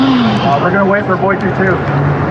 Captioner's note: chatttterer